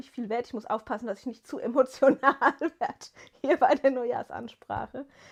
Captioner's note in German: gelächter